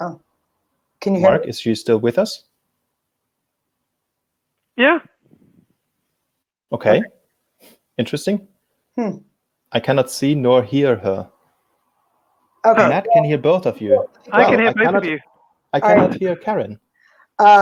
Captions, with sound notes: - Oh, can you-- - Mark, is she still with us? - Yeah. - Okay, interesting. - Hm. - I cannot see nor hear her. Matt can hear both of you. - I can (murmurs) interview. - I cannot hear Karin.